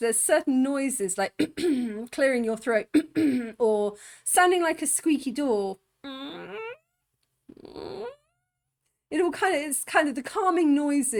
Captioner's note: squaking